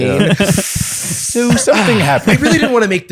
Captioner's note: sucks in breath